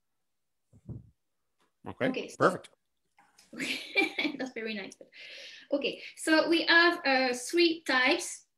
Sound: chuckles

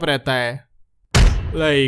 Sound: bam

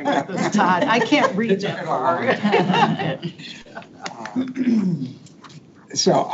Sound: people chuckle

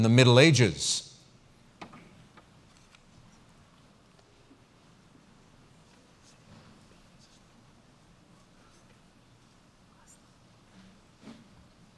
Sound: pause

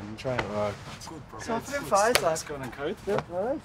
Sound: chatter, greeting

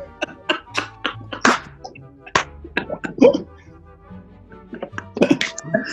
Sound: giggling and clapping; laughing

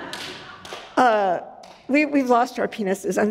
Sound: audience laughs

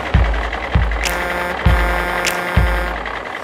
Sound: truck horn

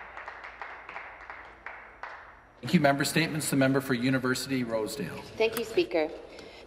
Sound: some Applause

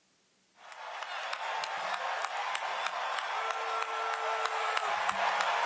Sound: audio recording playing

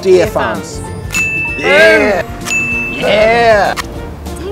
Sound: ding!

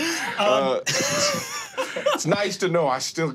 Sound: laughing

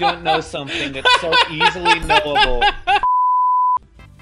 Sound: chuckles

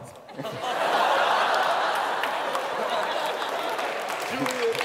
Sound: laughter

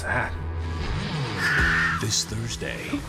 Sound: screams

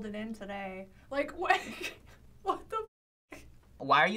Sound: laughs

